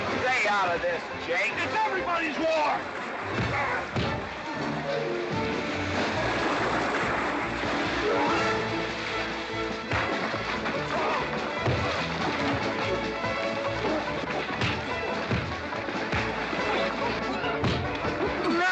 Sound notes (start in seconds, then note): 3.3 sounds of scuffling & fighting; 3.3 western fight music; 7.7 splash; 9.0 sounds of scuffling & fighting; 9.0 western fight music